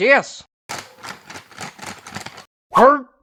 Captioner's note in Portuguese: Remexendo na pilha de cadeiras